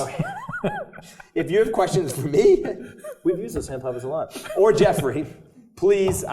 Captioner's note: laugh